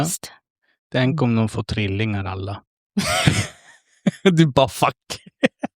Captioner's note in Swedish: skratt